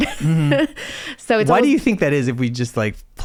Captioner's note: laughs